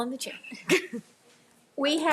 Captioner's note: member laughing